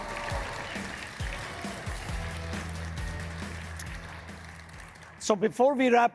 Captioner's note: audience cheering and clapping